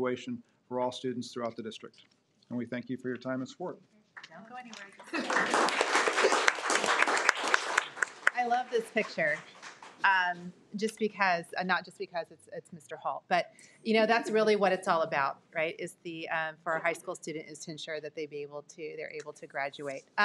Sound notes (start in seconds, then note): 4.7 audience clapping